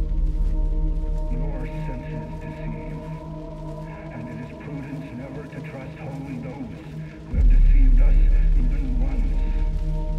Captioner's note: intercom